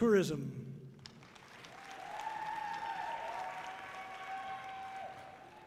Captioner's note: audience cheering loudly